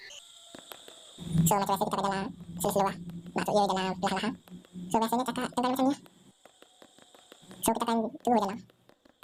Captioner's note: speaking Fast